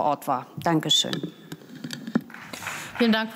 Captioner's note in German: Beifall